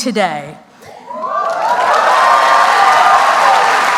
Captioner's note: applause